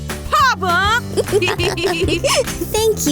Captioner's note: laughs